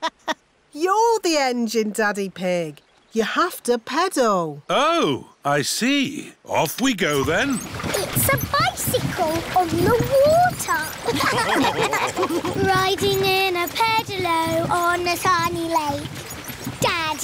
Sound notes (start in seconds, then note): 0.0 laughs; 11.0 all laughing